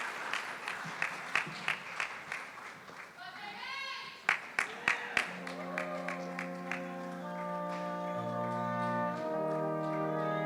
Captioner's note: applause